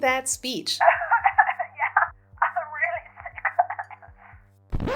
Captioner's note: coughing